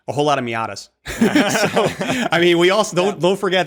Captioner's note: laughter